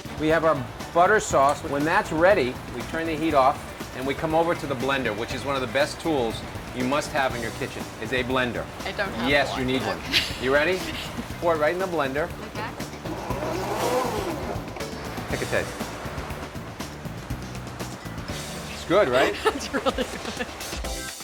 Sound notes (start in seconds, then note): 12.4 blender whirs